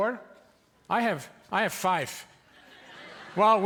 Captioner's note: audience laughing